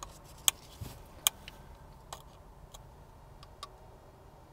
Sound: metal clicking

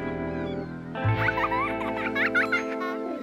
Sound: child laughing

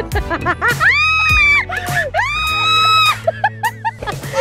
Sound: screams

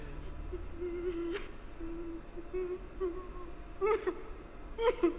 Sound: person sobbing

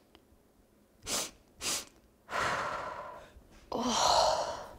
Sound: sniffing

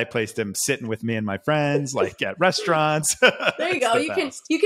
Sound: laughs

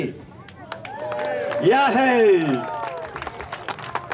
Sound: cheering

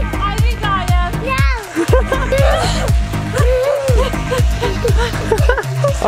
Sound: mother panting

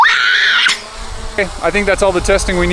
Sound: screaming

